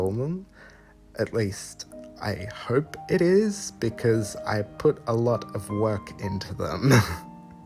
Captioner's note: chuckle